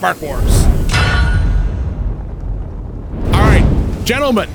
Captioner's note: logo thumping